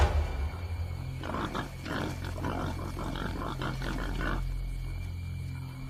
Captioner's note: wild pigs grunting